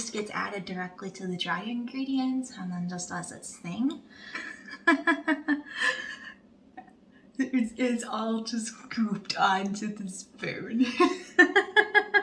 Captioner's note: laughter